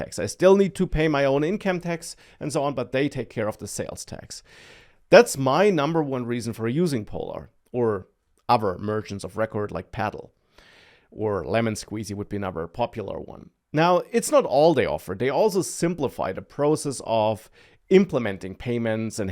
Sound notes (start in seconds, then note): none